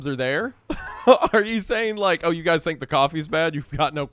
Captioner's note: laughs